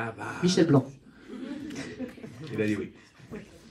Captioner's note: laughs